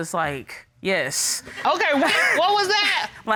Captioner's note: chuckles